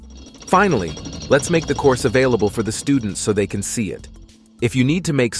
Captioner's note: gears spinning